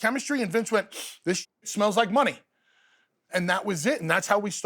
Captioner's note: sniff